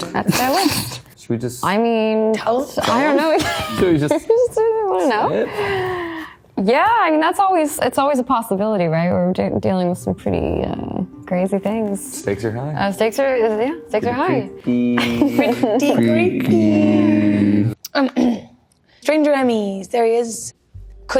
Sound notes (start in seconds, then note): 0.1 Joe and Quinn chuckles; 3.3 Natalia snickering; 14.7 Maya and Joe speaking gibberish; 18.1 Maya clears throat